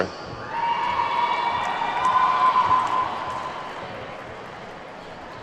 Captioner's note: attendees whooping and clapping